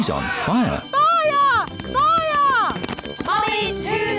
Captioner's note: alarm blares